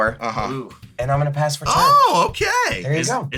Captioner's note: excitedly